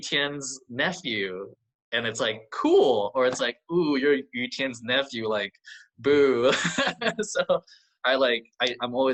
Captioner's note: laughs